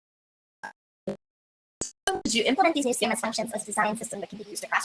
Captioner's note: distorted audio